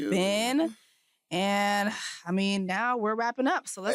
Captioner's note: sighs